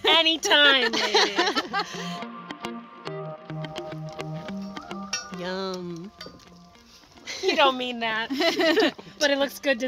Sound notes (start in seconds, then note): 0.4 laughing; 2.2 fun music; 8.3 laughing